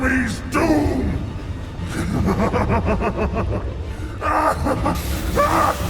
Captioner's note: evil Dragon Laughter